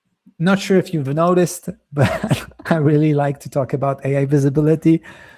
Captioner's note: chuckles